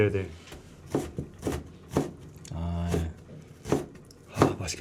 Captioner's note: rapid chopping